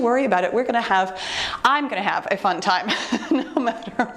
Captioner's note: chuckles